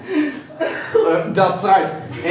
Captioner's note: laughing